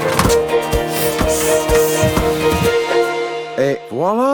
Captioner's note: pump hissing